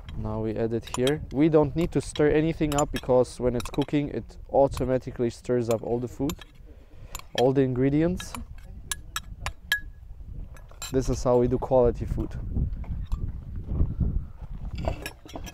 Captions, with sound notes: Now, we add it here. (spoon clanking) We don't need to stir anything up because when it's cooking, it automatically stirs up all the food, all the ingredients. This is how we do quality food. (wind blowing)